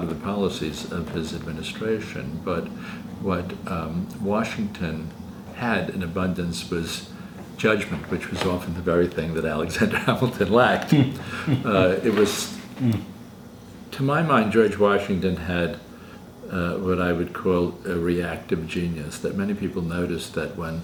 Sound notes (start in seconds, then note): 10.8 laughter